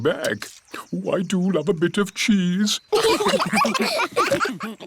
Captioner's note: laughter